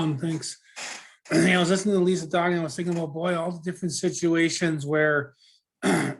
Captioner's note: clears throat